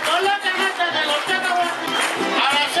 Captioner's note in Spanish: aplausos y cantan